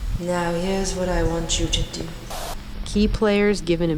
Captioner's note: static